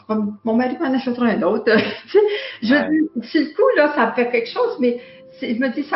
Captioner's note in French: rire